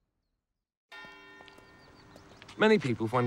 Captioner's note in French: la cloche de l'église sonne